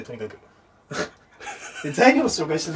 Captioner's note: laughter